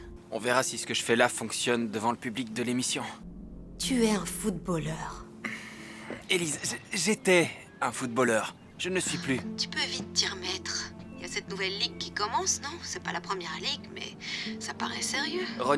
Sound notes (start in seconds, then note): 5.4 sighs